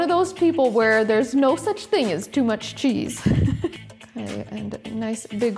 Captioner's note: laughs